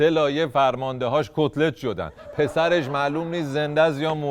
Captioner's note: laughter